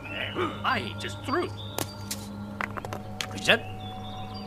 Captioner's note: rock tumbling noise